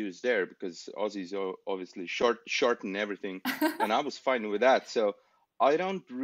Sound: laughs

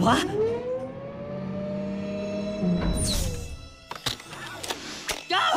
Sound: mechanical whirring, clacking

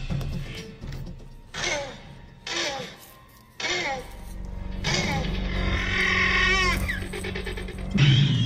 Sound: raptor sounds

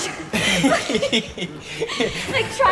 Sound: both laugh

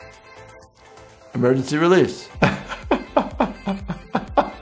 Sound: laughter

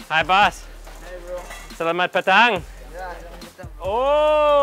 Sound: speaking in foreign language

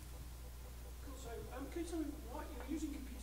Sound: voiceover

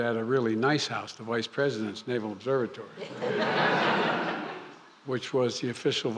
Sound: laughter

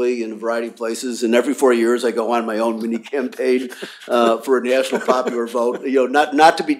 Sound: laughter

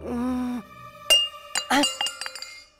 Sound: glass thuds

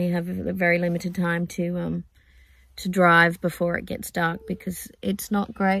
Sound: random ding noise

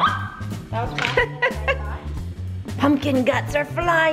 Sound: laughs

